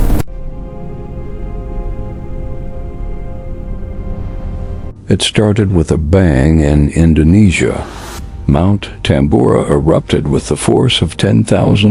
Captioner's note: sarcastic Commentary